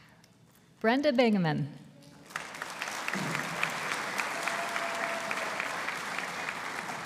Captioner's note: audience applauding